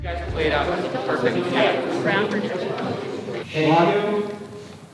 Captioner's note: film crew talking